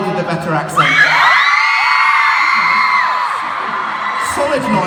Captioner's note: cheers